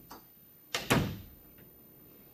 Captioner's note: door closes